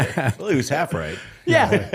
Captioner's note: laughter